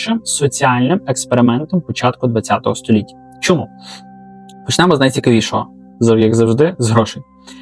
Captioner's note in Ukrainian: сопіння